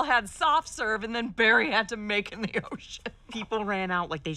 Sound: laughing

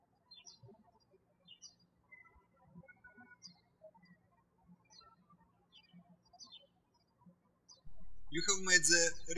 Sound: birds chirping

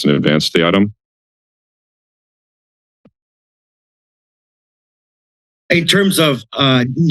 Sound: silence

